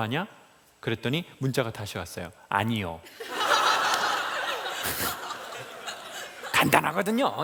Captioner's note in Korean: 웃음